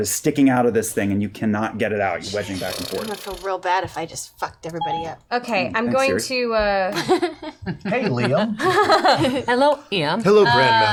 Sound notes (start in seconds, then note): 6.3 Siri beeps